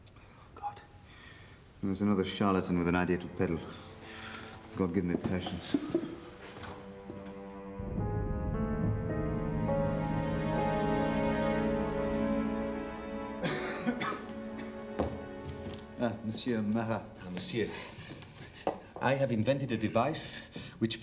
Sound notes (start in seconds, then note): 13.4 Lavoisier coughs